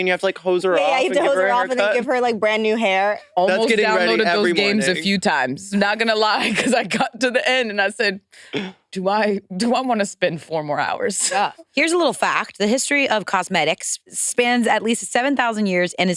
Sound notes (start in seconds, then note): 4.5 participants chattering